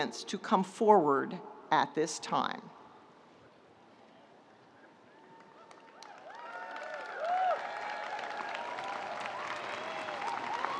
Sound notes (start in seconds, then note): 4.1 audience cheering; 5.5 audience applauding